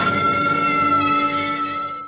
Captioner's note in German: Schrei